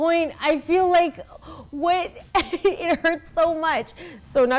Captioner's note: laughs